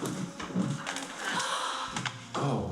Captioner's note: gasping